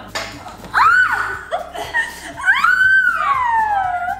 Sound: screaming

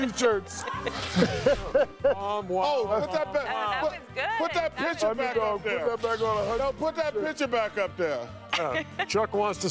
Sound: laughter

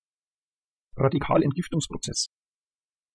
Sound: fast Pronunciation

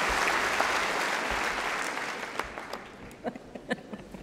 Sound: applause

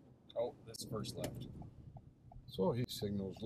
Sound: turn signal clicks

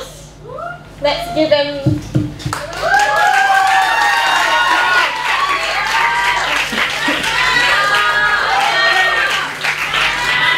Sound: applause

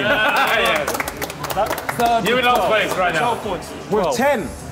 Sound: clapping; laughing

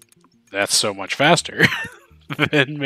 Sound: "haha i'm an idiot" laughter

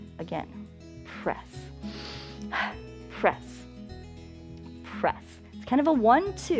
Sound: inhales and exhales

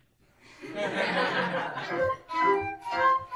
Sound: laughter

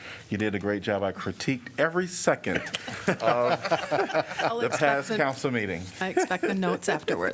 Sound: laughter

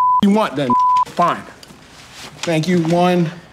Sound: beep

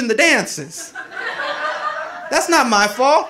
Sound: audience laughing

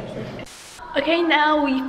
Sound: static

